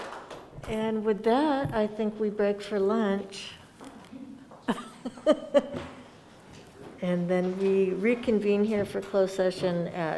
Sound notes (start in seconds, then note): 4.7 laughs